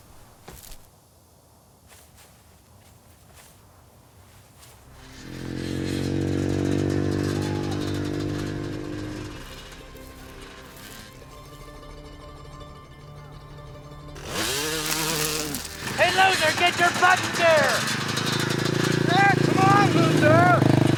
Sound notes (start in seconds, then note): 8.5 soft music; 14.2 bike whirring